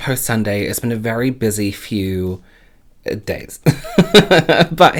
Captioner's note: laughs